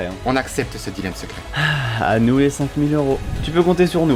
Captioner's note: sigh